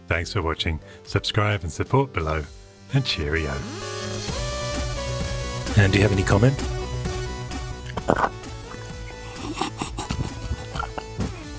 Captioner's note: crunching